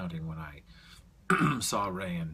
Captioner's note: clears throat